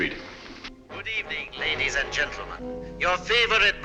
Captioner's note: radio broadcast